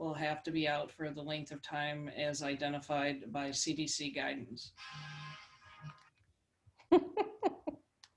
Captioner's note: laughs